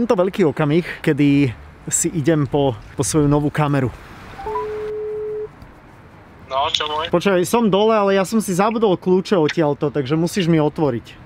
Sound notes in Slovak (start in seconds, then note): 4.4 zvonenie telefónu; 6.4 hlas v telefóne